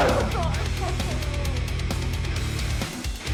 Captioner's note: Suzette lets out a painful cry; rock music continues to play